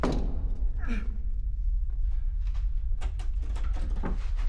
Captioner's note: grunting